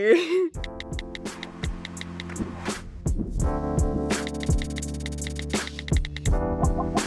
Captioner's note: mellow music playing; keyboard typing